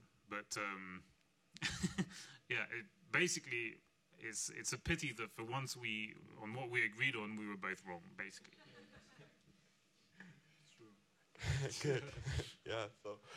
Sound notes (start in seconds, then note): 1.6 laughing; 8.5 all laughing; 11.4 laughing